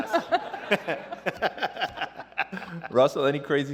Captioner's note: laughter